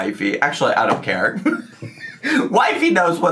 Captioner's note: laughs